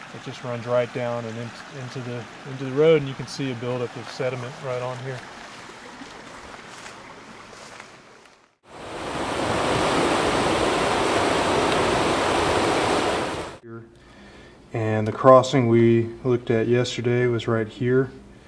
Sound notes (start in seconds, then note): 8.7 car engine revving; 9.2 water pattering